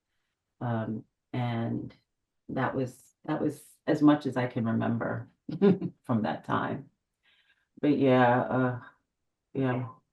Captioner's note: laughs